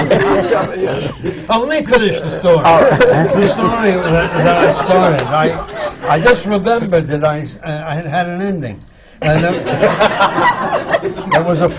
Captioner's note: laughter